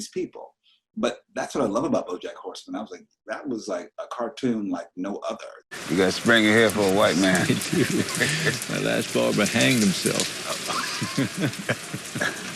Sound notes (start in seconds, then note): 8.0 chuckles softly